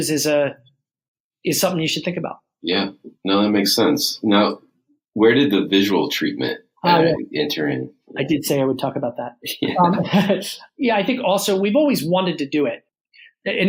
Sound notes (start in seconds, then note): 9.6 laughs